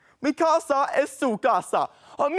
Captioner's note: Dracula speaks in Spanish